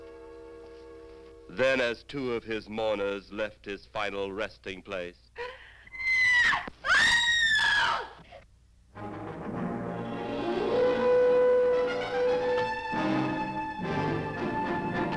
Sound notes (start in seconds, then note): 5.9 screaming; 9.0 dramatic instrumental music